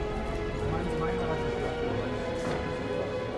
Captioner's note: indistinct chatter